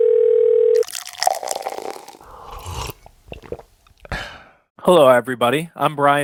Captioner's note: phone rings; beverage pouring in mug; man gulps beverage